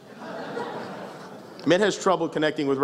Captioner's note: laughs